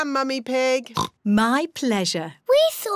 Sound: oinks

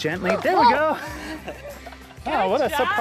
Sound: laughs

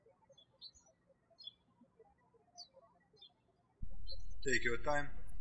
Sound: birds chirping

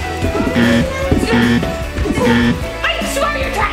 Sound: buzzer sounding

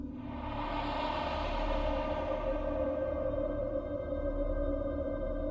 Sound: eerie whooshing; soft dramatic music

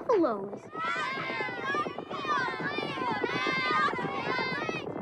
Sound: kids screaming

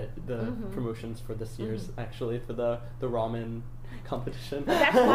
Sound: laughs loudly

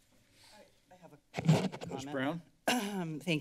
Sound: mic noise; clears throat

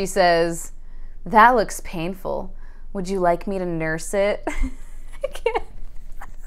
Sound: intense laughter

